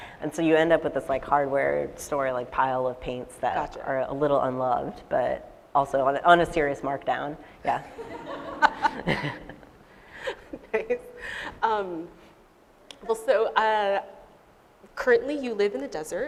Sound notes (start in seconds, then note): 7.9 laughter